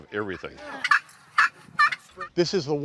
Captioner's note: squawk of slate turkey calls